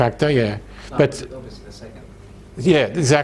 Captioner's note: audience answering